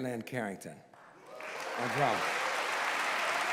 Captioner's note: applause